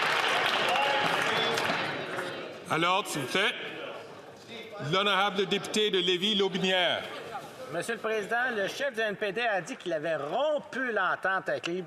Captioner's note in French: applaudissements